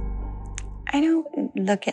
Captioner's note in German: englisch